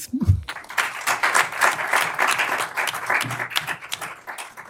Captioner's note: applause